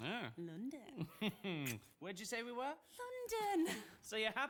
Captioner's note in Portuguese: laughs